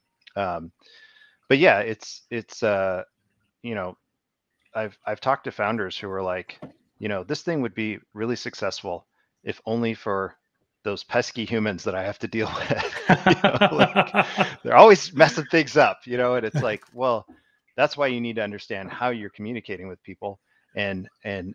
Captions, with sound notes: but yeah, it's a ... I've talked to founders who were like, "This thing would be really successful, if only for those pesky humans that I have to deal with." (laughs) They're always messing things up, you know? And it's like, well, that's why you need to understand how you're communicating with people,